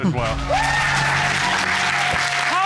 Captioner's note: cheers and applause